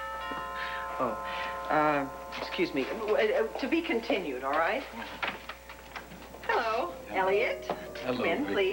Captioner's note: doorbell rings